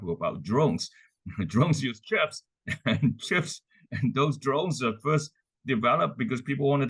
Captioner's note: laugh